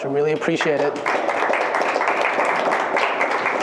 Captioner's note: applause